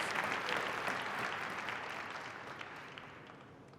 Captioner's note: applause